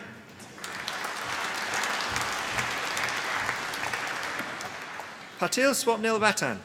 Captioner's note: applause